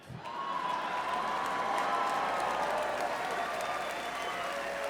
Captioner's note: audience applauds